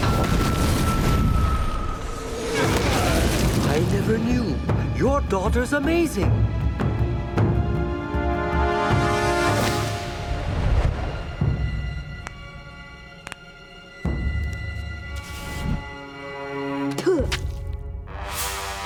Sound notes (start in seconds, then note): 12.1 cracking neck; 16.7 spitting